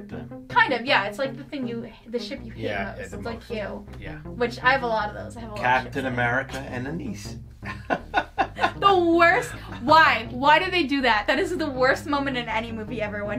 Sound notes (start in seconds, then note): 7.6 laughs